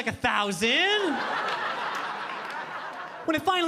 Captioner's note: audience laughing